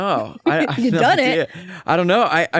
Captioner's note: laughs